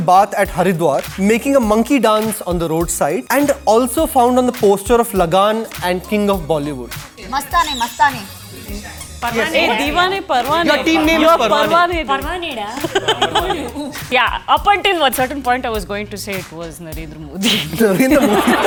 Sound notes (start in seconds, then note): 7.3 squeaking sounds